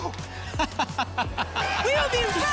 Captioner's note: laughter